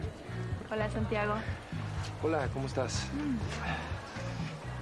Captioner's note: berbicara bahasa spanyol